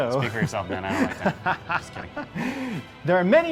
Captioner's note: laughs